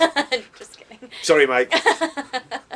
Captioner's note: laughter